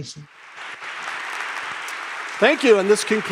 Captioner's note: crowd applauding